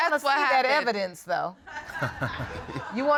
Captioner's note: all laughing